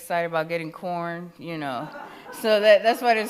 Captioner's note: attendees laugh